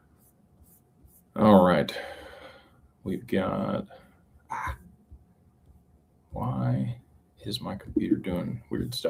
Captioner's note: sighs